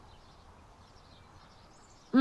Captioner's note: none